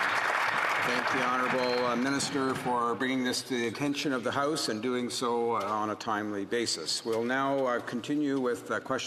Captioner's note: applause